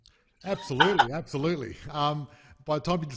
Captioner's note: laughs loudly